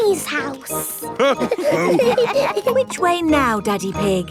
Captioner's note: all laughing